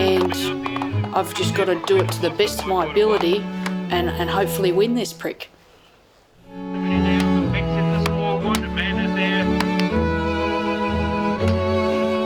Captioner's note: applause